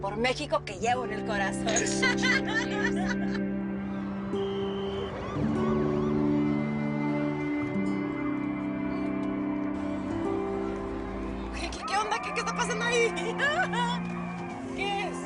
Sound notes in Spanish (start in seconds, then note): 1.7 Risas